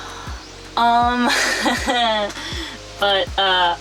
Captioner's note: laughs